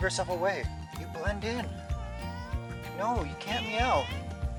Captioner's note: cat meowing